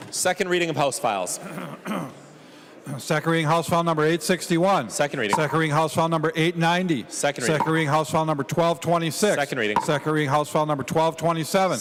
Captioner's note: gavel